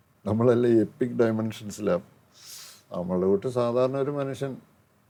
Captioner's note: sighs